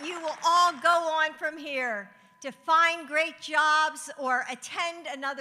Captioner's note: applause